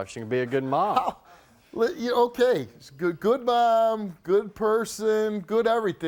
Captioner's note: scoffing